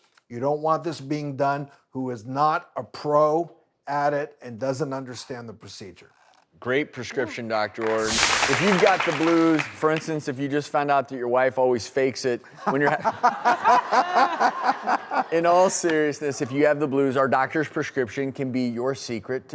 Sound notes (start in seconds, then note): 7.8 clapping; 7.8 whooshing; 12.8 laughing